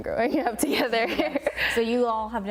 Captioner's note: laughter